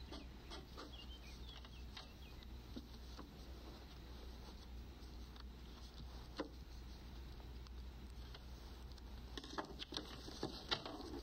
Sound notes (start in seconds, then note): none